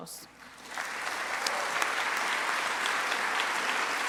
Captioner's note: audience applauds